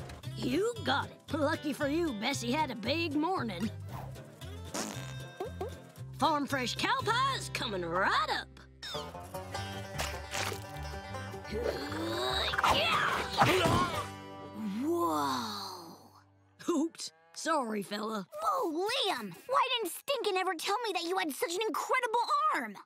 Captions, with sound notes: You got it. Lucky for you, Bessie had a big morning. Farm fresh cow pies, coming right up! [grunting] Whoa. Whoops. Sorry, fella. Whoa, Liam! Why didn't Stinkin' ever tell me that you had such an incredible arm?